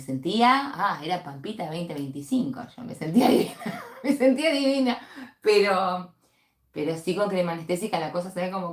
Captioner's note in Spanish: risas